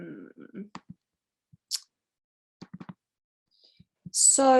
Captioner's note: mouse clicking